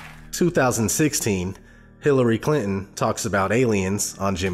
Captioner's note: voiceover